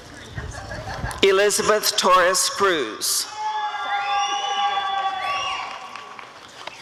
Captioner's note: applause and cheering